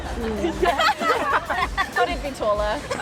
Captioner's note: laughing